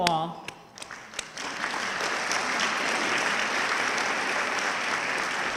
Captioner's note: audience clapping